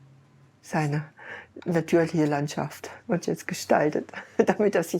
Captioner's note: laughing